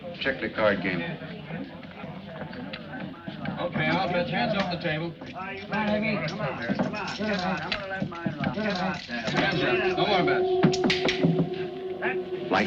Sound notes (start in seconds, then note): 6.1 players chattering; 9.3 tense music